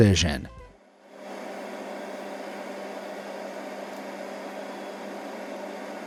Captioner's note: excavator engine whirring